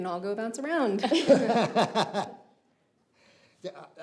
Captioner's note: Pastor Roland laughs